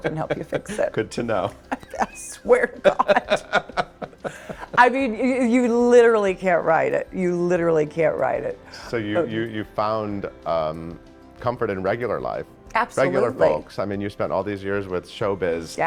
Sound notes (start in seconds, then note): 0.0 both laughing